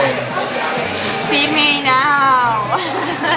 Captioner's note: laughs